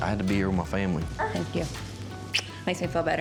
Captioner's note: smooch